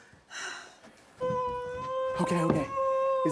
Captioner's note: Isabel weeping